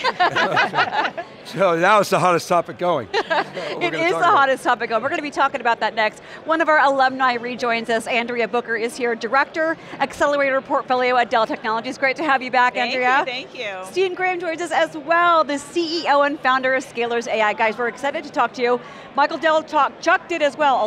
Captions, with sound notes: (everyone laughing amusingly) So now, it's the hottest topic going. >> (laughing) It is the hottest topic going. We're going to be talkin' about that next. One of our alumni rejoins us, Andrea Booker is here, Director, Accelerator Portfolio, at Dell Technologies. Great to have you back, Andrea. >> Thank you, thank you. >> Steen Graham joins us as well, the CEO and Founder of Scalers AI. Guys, we're excited to talk to you. Michael Dell talked, Chuck did as well,